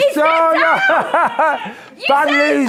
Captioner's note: laughing